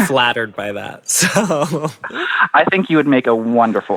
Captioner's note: laughs